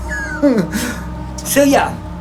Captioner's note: laughing